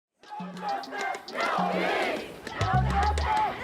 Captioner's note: crowd